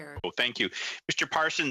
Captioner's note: speaking in French